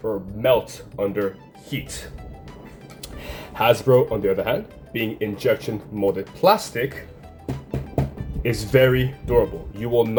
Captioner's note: knock knock knock